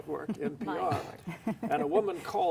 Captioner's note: laughs